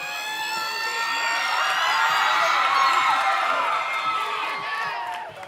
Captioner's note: audience cheering